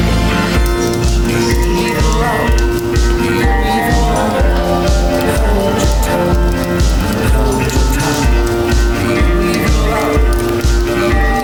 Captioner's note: fire crackles cozily